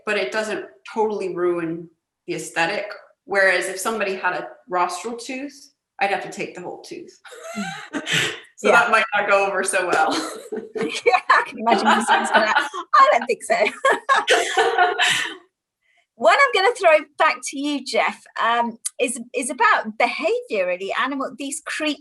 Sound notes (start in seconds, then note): 8.2 laughter; 13.7 much laughter